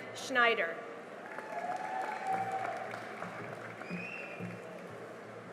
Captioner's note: cheering and applause